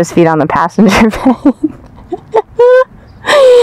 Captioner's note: laughter